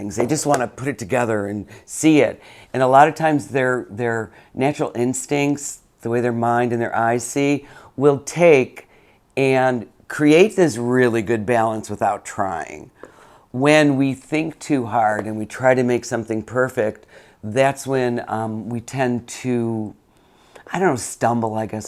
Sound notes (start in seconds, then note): none